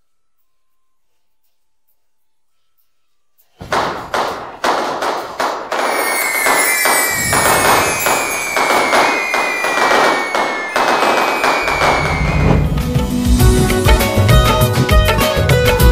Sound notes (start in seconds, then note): 3.4 crackers bursting; 13.4 theme music